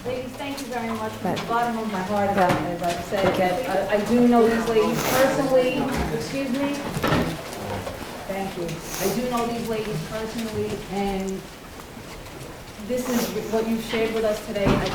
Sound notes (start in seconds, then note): 3.2 furniture rumbles